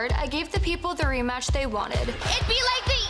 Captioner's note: crowd chants "rematch"